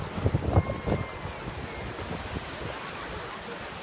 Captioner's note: people cheering